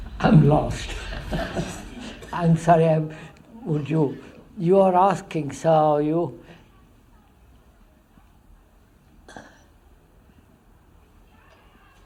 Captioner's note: laughs